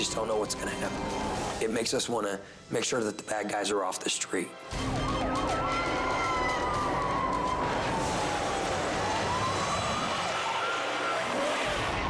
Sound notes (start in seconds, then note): 4.6 tense music; 4.8 siren blaring; 7.6 car crashes